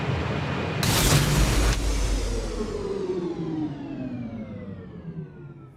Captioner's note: sound of a machine shutting down